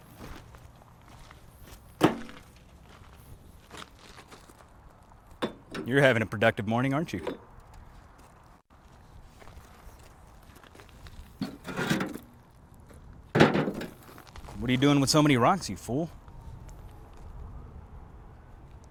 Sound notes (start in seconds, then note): 2.0 metal thunks; 10.8 wheelbarrow thunks; 16.0 sirens blaring faintly